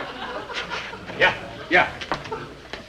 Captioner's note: audience laughing